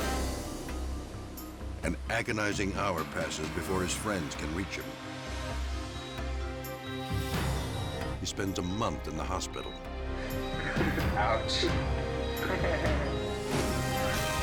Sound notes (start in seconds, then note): 6.6 machine beeps; 10.3 visitor laughs